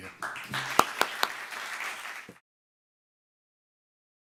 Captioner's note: audience clapping